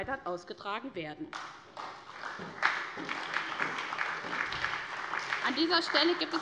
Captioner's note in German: Beifall bei der SPD